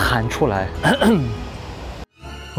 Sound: cough

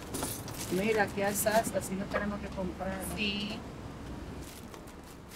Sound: speaking in Spanish

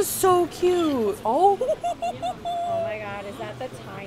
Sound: giggling

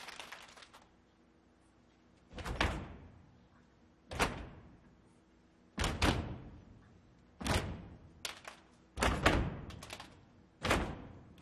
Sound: clapping and stomping

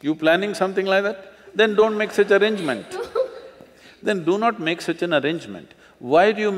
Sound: laughter

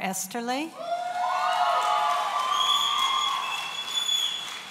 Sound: audience cheering

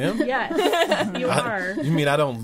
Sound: all laughing

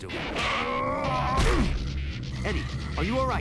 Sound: Venom yells as he falls to the ground

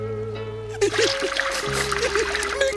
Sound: sobbing

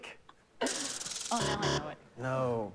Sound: buzzer

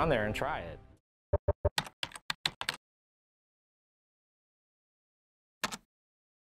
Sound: sound effect and keys typing

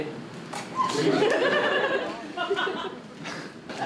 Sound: audience laughter

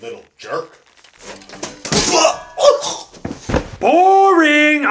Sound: groans and gurgles; loud thump

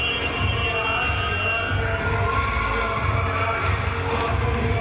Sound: whistle blowing

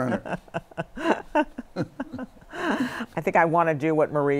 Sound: laughter

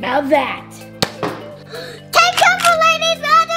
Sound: toy gunshot

